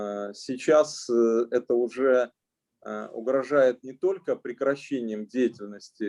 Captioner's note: speaking Russian language